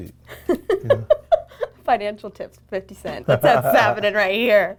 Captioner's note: laughs